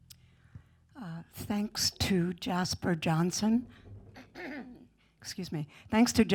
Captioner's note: clears throat